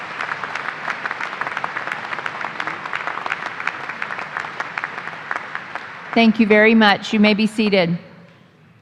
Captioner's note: applause